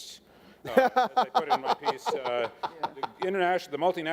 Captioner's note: laughing